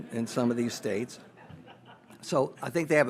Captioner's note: audience laughs